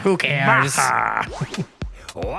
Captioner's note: exaggerated laugh